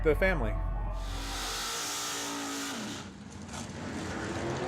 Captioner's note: engines revving